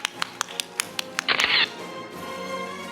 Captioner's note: camera shatters; orchestral music